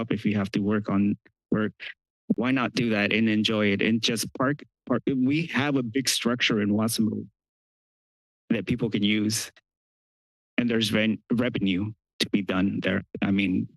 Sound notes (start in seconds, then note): 7.3 pause